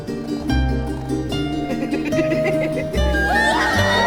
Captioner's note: laughing; screaming